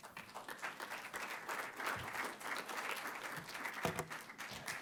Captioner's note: applause